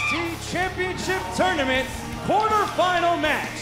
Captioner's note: bell ringing